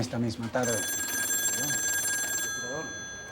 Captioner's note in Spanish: Suena el teléfono